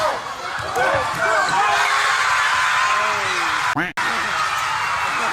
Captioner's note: crowd cheering